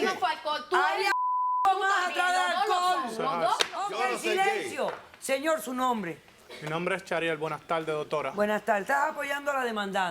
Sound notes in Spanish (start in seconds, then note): 1.1 Bip